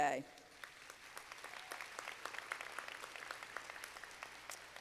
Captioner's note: students applauding